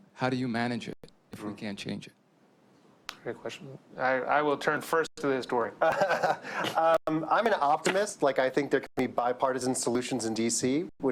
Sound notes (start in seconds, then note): 5.8 laughs